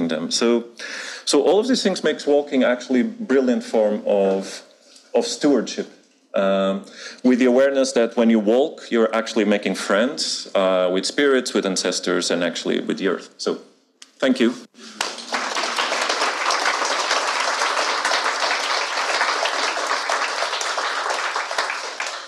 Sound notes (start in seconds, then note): 14.8 audience applauding